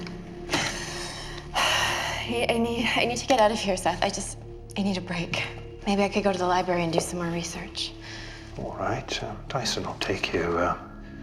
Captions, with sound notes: (sighs heavily) - I need, I need to get out of here, Seth. I just, I need a break. Maybe I could go to the library and do some more research. - Alright. Tyson will take you.